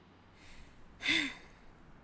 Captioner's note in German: seufz